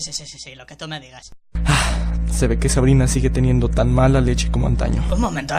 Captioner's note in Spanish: Suspiro